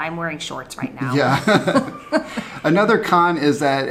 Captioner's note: both laugh